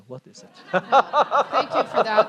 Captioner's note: laughter